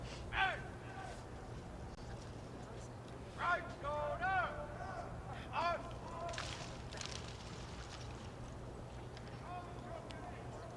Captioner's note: shouted commands